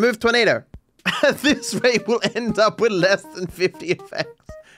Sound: laughing

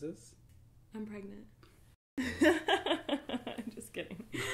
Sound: laughs

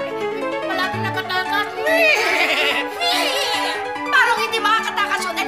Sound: neighs; imitates neighing

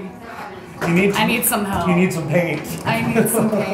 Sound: laughs

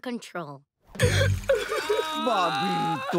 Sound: sobbing

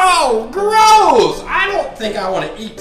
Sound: voiceover

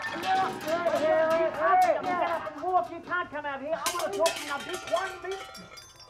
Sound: objects clatter; bickering intensifies

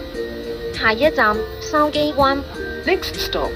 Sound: Cantonese

